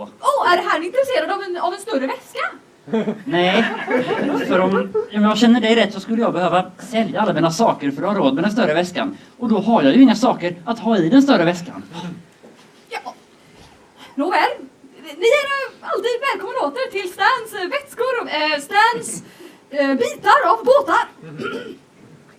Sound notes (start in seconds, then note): 2.8 laughter; 11.9 sighs